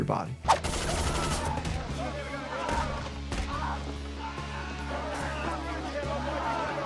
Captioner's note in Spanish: disparos de armas